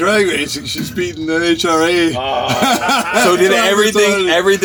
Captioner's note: laughs